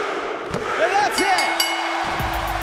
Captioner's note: fans chanting; bell ringing